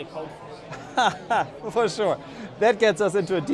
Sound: laughs

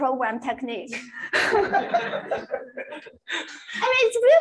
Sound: laughter

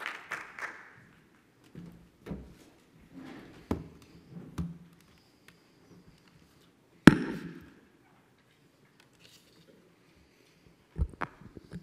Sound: pause 00:23:23

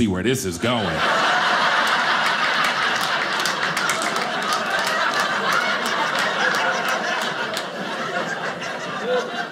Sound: audience laughing

